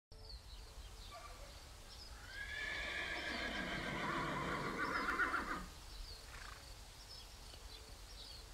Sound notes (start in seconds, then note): 0.0 birds chirping; 2.2 horse neighing